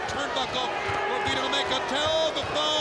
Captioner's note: crowd boos